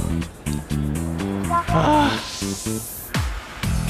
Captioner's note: groans echoing in the junkyard~